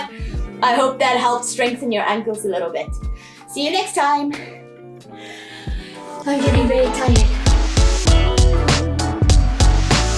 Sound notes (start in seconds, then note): 5.2 out of breath; 5.8 outro music